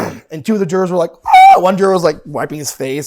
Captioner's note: shrieking